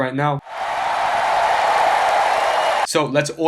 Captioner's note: crowd cheering